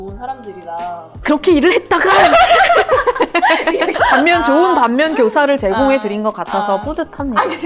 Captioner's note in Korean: 웃음